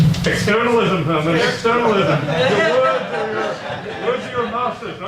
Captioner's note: audience laughs